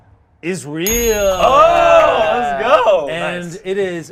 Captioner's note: group cheers